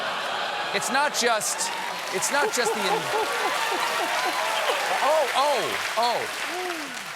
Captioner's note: cheers and applause; laughter